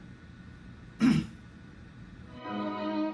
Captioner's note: clears his throat; brooding music continues